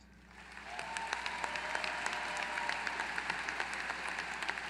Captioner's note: applause